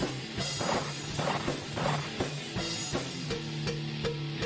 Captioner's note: gunfire